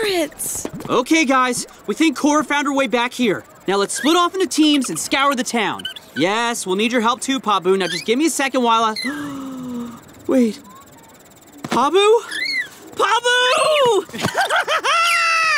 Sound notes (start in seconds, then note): 9.0 gasping; 13.4 laughing